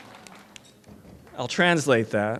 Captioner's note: applause